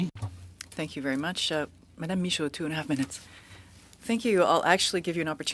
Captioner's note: speaking French